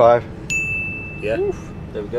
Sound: digital dinging

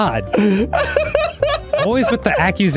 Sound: laughing

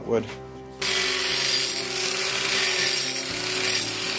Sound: grinding metal

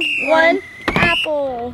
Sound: whistle blows

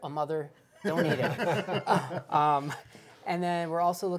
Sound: laughing

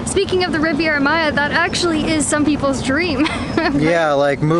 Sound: laughs

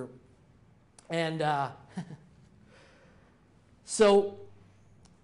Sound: chuckles

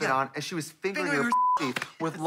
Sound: beep

